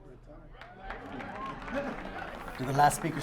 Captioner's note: audience applauds